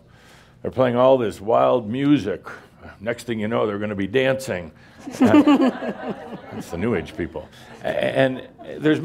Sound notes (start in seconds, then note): 5.0 laughter